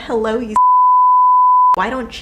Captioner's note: beep